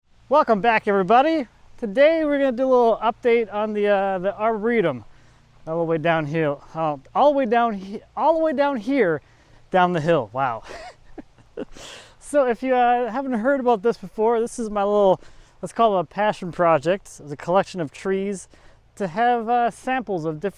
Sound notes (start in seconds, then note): 10.5 chuckles